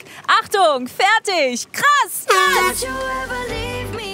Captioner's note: Heitere Popmusik; Startsignal